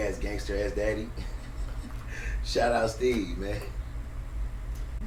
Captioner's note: laughter